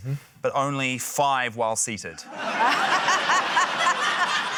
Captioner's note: laughter